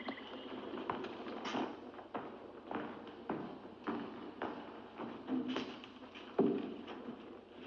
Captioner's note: mens' footsteps